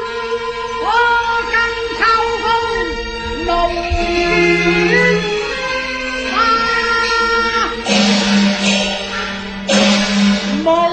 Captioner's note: autumn wind